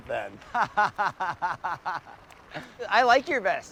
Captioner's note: laughs